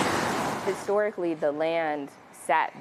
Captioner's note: traffic whirring